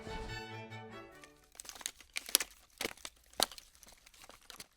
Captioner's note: vague shuffling noises